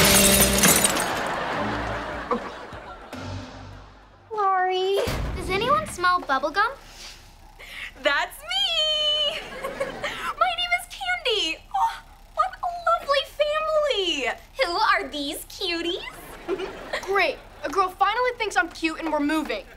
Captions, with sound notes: Sorry. Does anyone smell bubble gum? [sniffing] That's me. [giggling] My name is Candy. What a lovely family. Who are these cuties? [giggling] Great. A girl finally thinks I'm cute and we're moving.